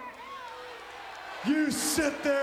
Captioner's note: audience applauds and cheers